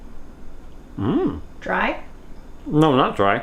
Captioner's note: hums